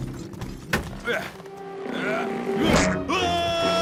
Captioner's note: clanks